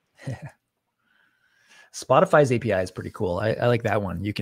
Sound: chuckles

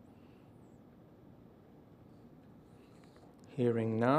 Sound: silence

